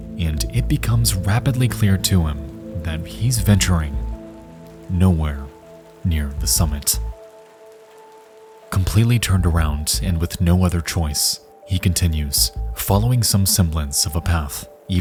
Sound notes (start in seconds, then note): 7.0 mysterious music; 7.0 rain pattering